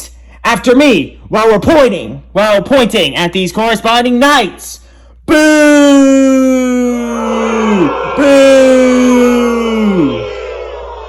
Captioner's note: Eastern Hemisphere boos